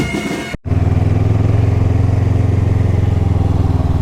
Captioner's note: engine thrum